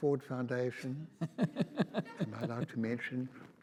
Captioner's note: audience laughs